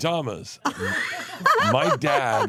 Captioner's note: laugh